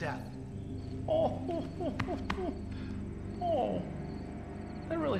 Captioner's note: Sean chuckles